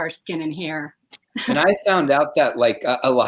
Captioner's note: laughing